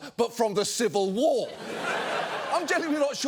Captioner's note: studio audience laughing